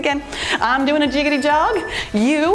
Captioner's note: timer beeps